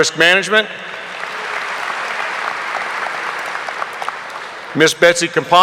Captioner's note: audience applauding